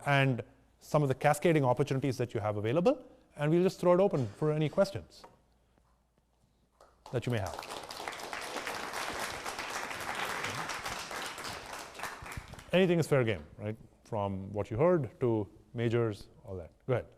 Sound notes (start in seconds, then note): 7.0 audience applauding